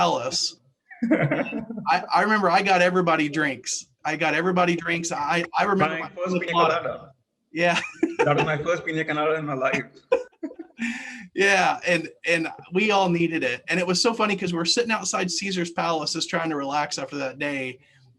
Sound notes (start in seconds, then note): 0.9 laugh; 7.7 laugh